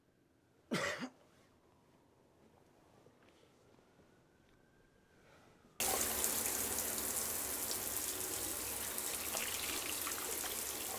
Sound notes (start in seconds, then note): 0.7 coughs; 5.8 water running